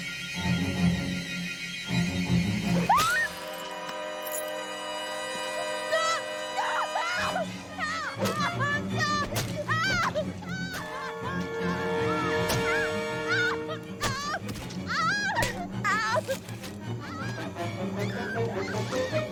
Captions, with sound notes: (SHRIEKS) Stop! No! No! Help! No! (SCREAMING)